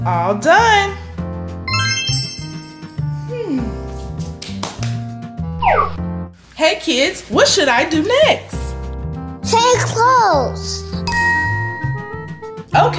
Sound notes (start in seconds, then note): 1.7 chime sound effect; 11.0 ding sound effect